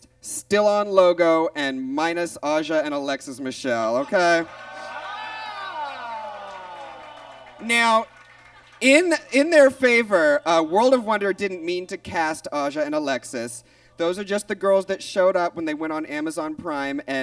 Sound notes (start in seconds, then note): 4.4 audience groans